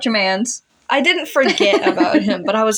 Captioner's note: laugh